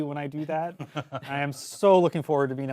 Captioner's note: laughs